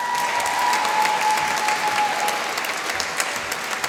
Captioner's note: applause